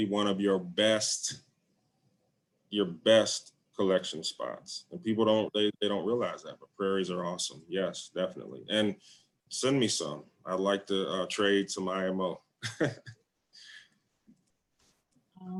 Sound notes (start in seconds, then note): 12.6 laughs